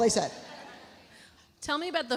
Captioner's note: audience laughs